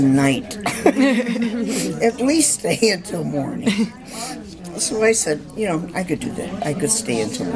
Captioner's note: laughter